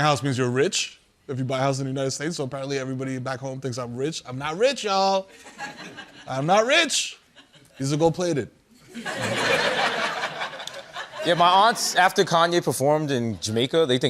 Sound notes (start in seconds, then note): 8.8 laughter